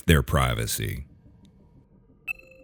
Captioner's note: none